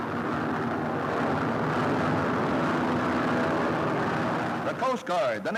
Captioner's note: airplane engines roaring